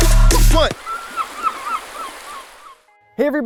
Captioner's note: seagulls mewing